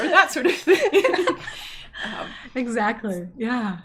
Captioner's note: both laughing